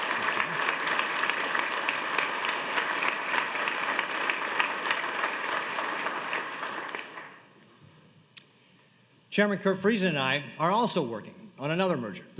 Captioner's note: applause